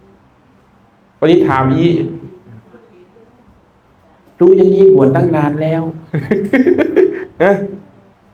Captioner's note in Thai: เสียงหัวเราะ